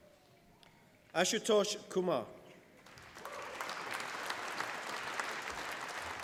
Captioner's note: applause